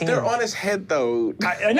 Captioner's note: giggles